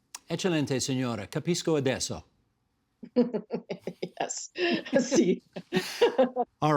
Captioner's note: speaking in italian